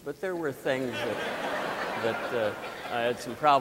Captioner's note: audience laughing